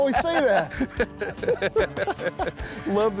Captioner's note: both laughing